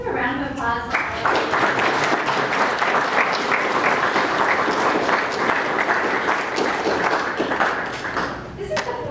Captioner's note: applause